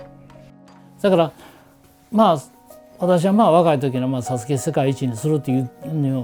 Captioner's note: speaking foreign language